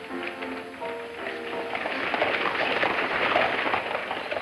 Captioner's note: hooves clopping